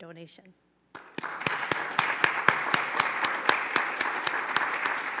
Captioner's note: applauding